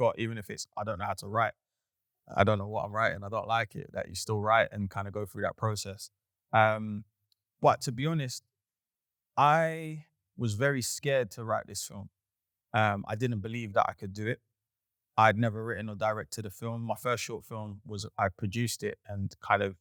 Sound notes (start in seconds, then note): none